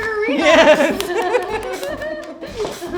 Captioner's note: laughing